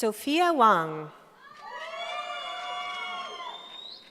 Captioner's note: cheering